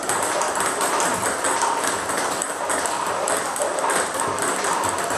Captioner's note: ball ping pong hitting continues